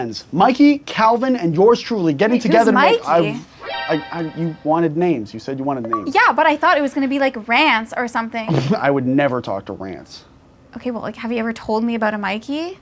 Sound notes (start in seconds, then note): 3.1 alert sound; 5.5 Xbox Achievement sound